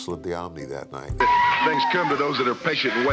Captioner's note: fans screaming